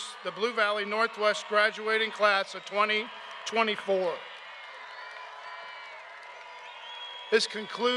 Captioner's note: cheers and applause